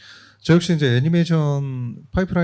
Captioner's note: speaking korean